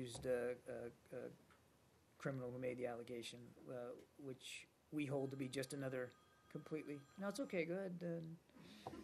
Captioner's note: cell phone rings